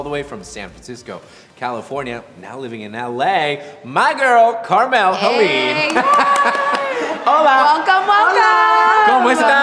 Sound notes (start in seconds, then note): 5.4 clapping and cheering